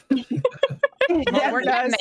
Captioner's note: Deborah laughs